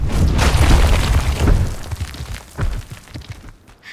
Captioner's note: rocks crashing